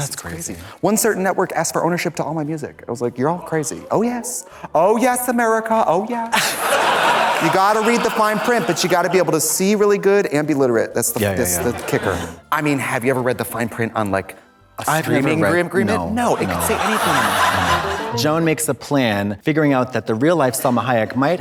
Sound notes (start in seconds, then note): 6.3 audience laughs; 17.5 audience laughs; 17.5 upbeat music